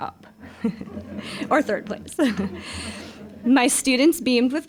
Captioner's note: all chuckling